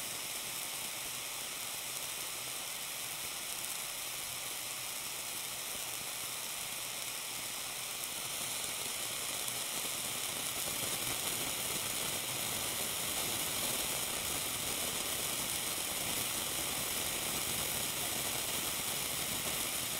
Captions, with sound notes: why is this video so long it should be over by now the cheese is just evaporating *shhhkKkkkkk* *more static*